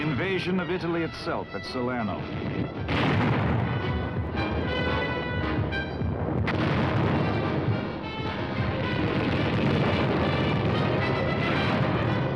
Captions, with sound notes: the invasion of Italy itself at Salerno. (guns booming)